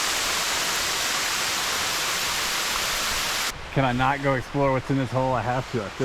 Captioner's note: water splashing